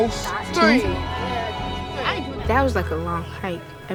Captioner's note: kids mumbling